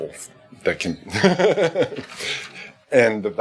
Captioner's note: laughing